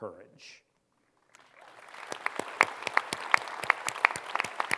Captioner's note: applause